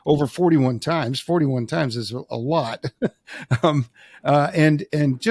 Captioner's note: laughs